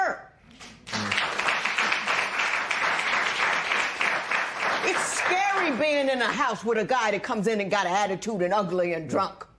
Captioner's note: applause